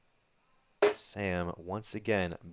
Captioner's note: dart ticks